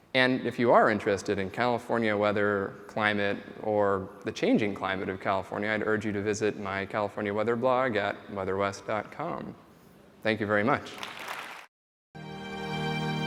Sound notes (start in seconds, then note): 10.8 applause